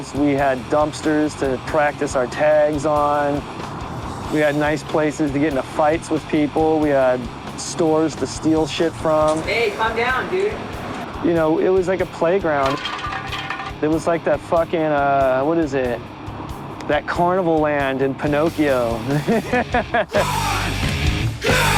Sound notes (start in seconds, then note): 12.6 spray can clatters; 19.0 laughs